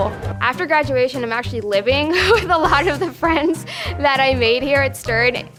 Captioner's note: laughs